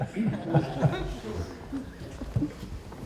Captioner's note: laughter